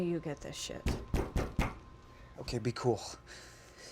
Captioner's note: loud knocking